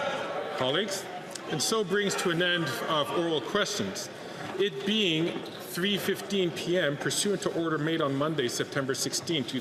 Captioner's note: some Applause